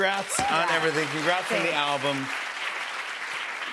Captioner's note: cheers and applause